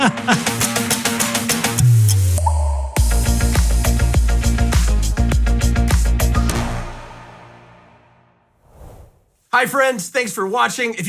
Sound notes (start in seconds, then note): 0.2 upbeat music; 2.5 water droplet